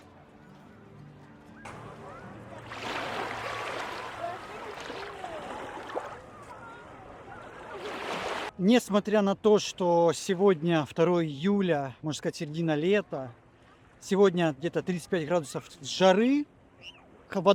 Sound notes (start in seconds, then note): 2.2 sound of water